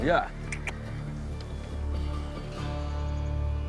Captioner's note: clicking